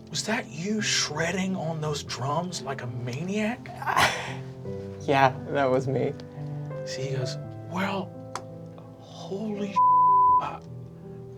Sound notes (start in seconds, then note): 9.8 beeping